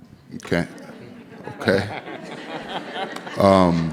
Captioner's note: laughing